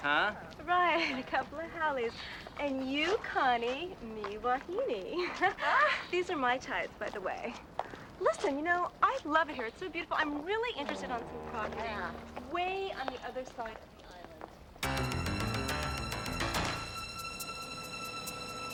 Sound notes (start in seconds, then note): 5.2 ladies laughing; 14.8 upbeat suspenseful music